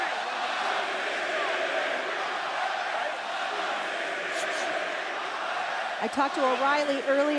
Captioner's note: crowd cheering